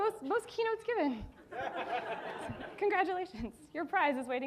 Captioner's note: audience laughing